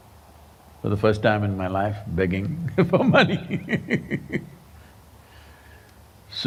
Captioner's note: laughs